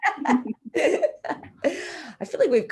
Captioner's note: laughing